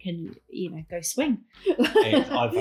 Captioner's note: laugh